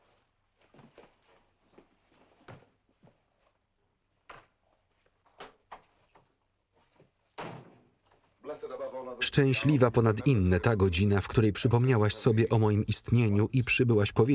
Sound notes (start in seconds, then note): 7.0 door closes